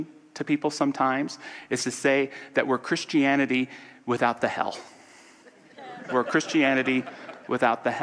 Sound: audience laughter

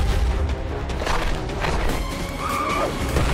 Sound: intense exciting music; claws scratching; tires squealing

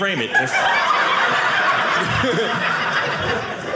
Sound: audience laughing

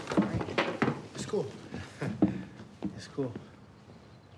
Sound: chuckles

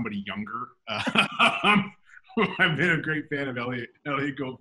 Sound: laughs

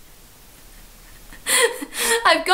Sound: laughing

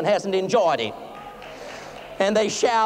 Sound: light applause

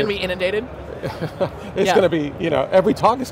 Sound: laughs

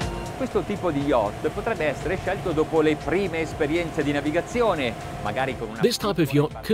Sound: speaks Italian

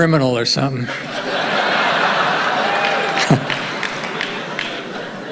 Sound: audience cheering

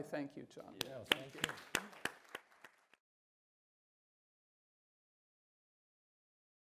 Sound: panelists applauding

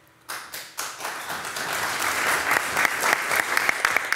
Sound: all loudly applauding

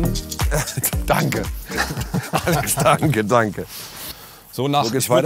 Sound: Beide lachen

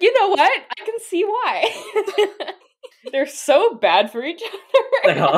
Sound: laughing

